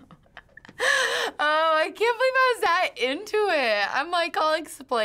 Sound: laughs; gathers breath

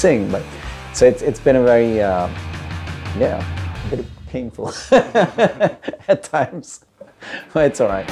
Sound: laughter

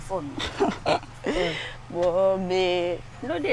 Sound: laughing

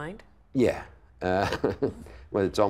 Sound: laughing

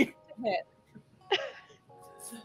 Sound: laughter

